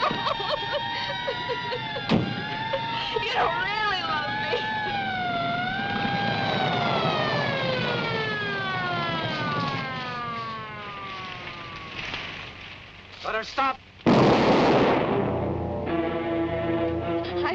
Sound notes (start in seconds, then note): 0.0 Tibby cries loudly; 5.6 sirens wailing; 14.0 gun fires; 15.0 suspenseful orchestral music